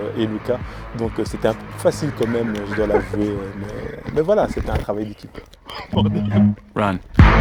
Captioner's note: laughs